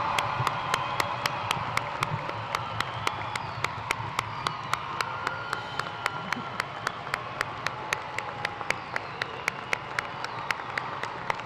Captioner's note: cheers and applause